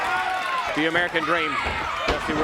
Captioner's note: crowd cheering